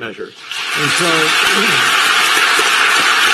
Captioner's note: applause